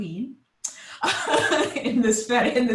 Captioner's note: laughing